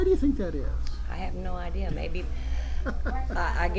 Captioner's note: laughs